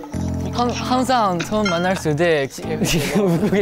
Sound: is laughing

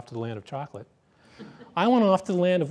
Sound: laughter

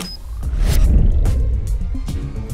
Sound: whooshing

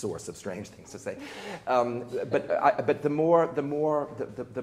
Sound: people chuckling

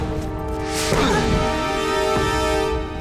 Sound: she exclaims

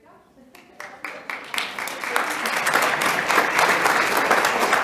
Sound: attendees applauding

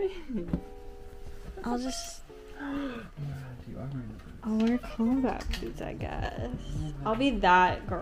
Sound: gasps

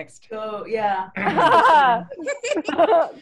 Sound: laughing

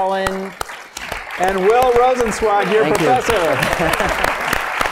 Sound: applause

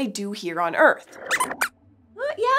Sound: squeaks squeaks

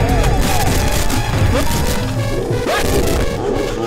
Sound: phone ringing

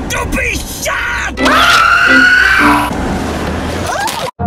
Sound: cat screaming

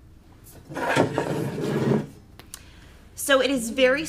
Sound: stand scrapping

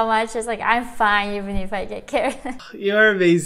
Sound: chuckles

